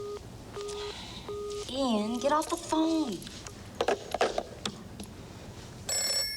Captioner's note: phone beeping; sighing; phone ringing